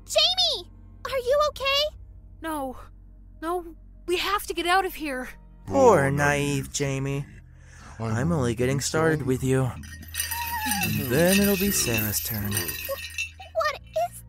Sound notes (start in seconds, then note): 9.9 whimpers